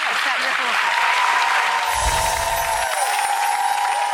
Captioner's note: crowd cheering